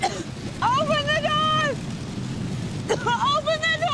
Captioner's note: coughs